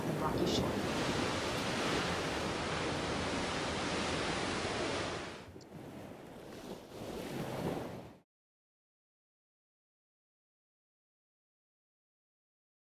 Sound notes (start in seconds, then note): 0.0 tidal sounds continue; 8.0 audio ends